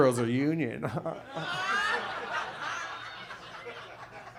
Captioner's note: audience laughs